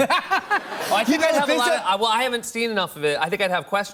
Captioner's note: laughs